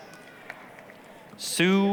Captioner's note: applause